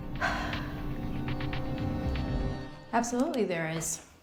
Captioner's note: Claire sighs